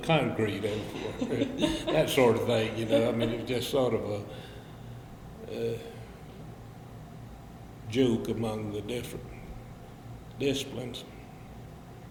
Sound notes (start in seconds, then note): 0.7 both laugh